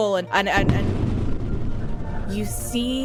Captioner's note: sound of explosion